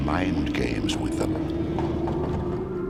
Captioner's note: door rattles